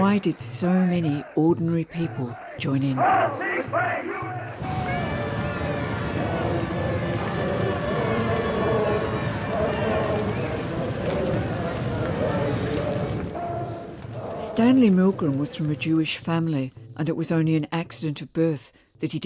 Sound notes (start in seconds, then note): 4.6 fire blazing; 4.8 crowd singing